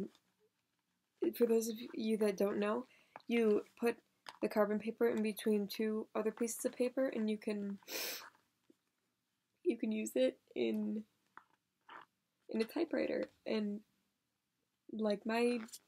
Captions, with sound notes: Um. For those of you that don't know, you put the carbon paper in between two other pieces of paper and you can (sniff) you can use it in... In a typewriter, and, like my...